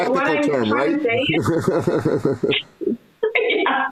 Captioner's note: laughs